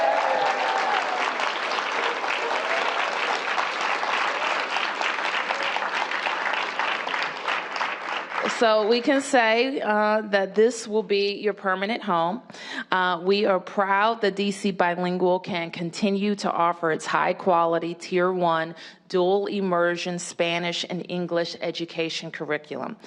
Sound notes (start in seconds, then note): 9.7 cheers and applause